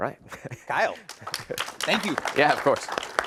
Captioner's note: audience clapping